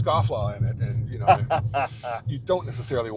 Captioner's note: laughing